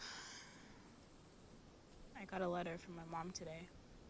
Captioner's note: sighs